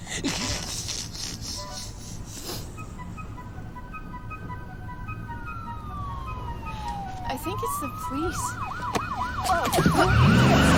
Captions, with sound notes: ( snickers ) ( siren wailing ) I THINK IT'S THE POLICE.